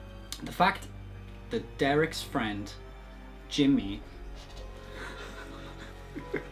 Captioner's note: laughs